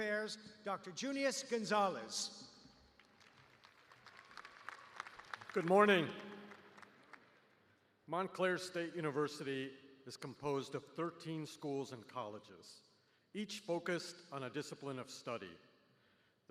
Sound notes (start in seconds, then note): 6.3 applause